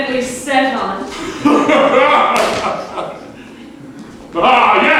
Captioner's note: hearty American laughter